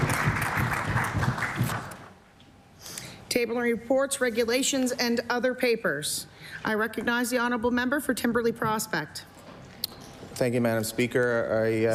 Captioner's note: applause